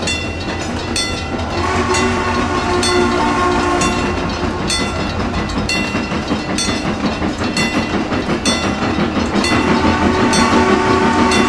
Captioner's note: CNJ Blue Comet Pacific whistle